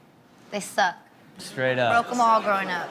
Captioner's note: audience laughs